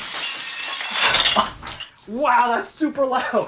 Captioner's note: laugh